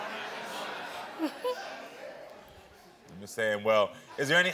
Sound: chuckles

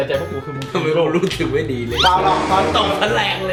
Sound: chuckles

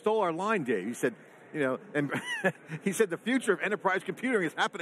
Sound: laughs

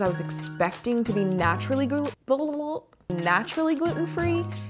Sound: stuttering

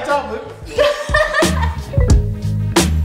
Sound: laughing; jazzy music

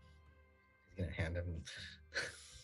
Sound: laughter

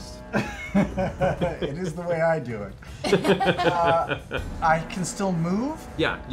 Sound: laughs

